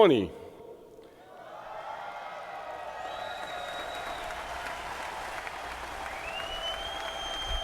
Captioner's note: crowd cheering